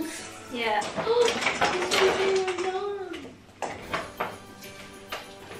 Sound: gasps

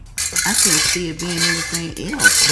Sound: pot scraping

